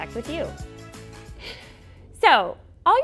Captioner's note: chuckles